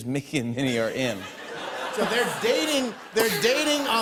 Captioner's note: laughter